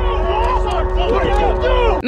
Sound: yelling

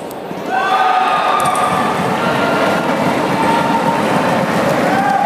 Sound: applause

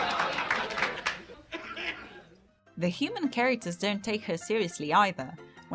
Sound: laugh track

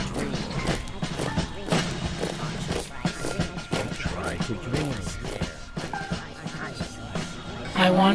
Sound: marching steps

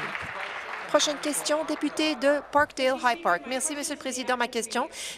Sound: applause

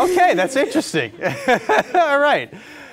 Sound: laughing

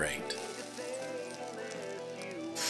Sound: sizzling sounds

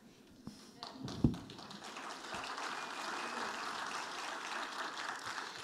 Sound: audience applauding

